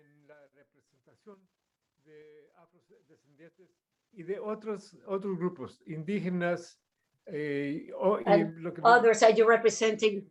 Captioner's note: non-english speech